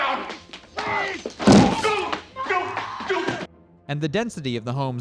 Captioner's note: thump